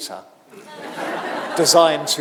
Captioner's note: audience laughing